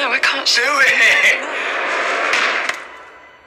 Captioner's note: clicks